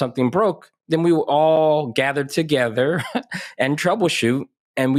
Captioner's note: chuckles